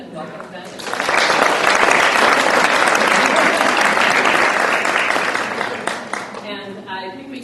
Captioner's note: applause